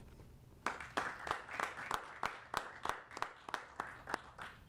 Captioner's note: applauding